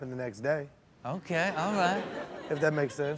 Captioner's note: audience laughs